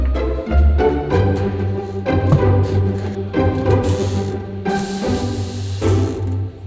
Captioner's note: cupboards thumping and creaking